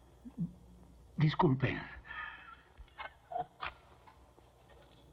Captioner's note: laughing